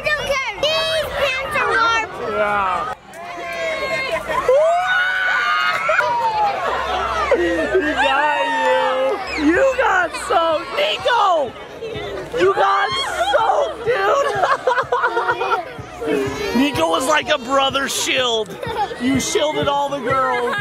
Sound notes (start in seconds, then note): 5.0 screams; 13.0 laughs